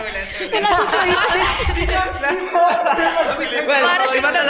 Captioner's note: laughs